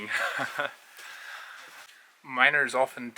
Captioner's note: laughs